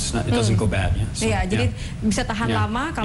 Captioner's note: non-english speech